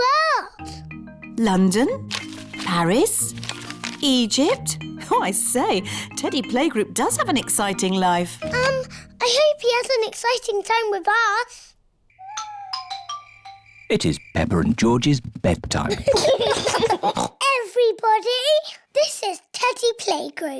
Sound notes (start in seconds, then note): 12.1 owls hoot; 15.8 both giggle